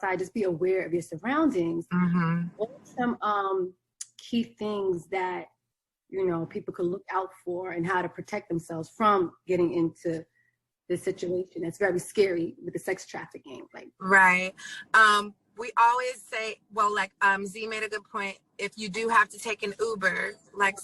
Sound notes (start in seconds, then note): 1.9 murmuring